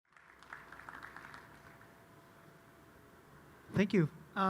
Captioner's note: audience applauding